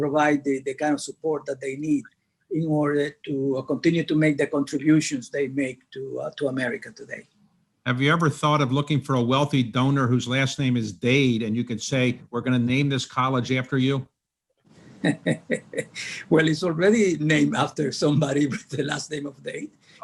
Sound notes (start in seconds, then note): 15.0 laughs